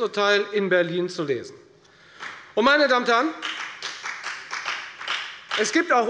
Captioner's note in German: Beifall bei der FDP